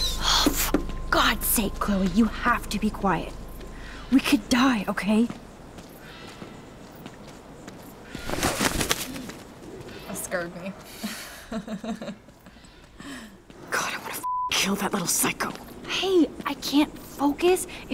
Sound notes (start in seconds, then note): 8.0 owl's wings flapping; 11.0 chuckles